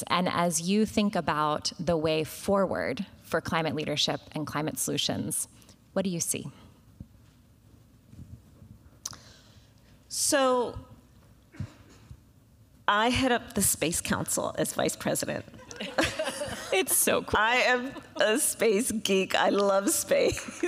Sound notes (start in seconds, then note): 15.6 laughter